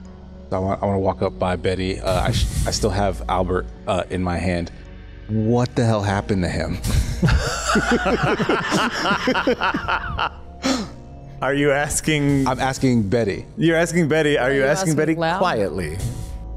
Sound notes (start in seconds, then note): 7.0 laughs